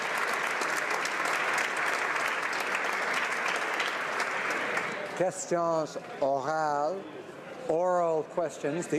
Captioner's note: applause